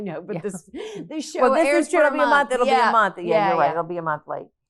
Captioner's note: both chattering